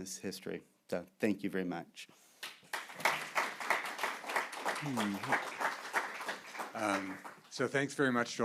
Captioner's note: applause